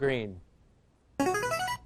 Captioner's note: answer bell